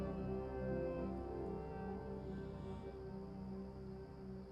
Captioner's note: crickets chirping